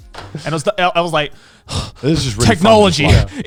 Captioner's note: mimics screw sound; mimics breathes heavily